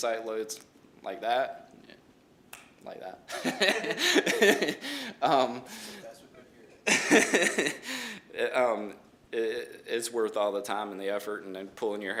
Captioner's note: snaps